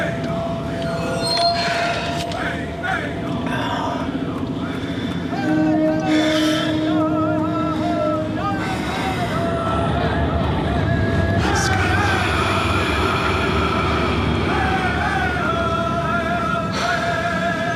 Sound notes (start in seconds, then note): 3.9 Scott groaning; 14.6 voices chanting